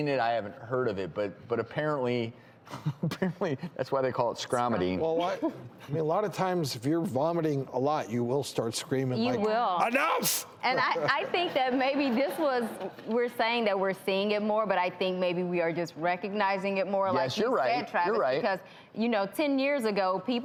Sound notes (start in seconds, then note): 2.7 laughs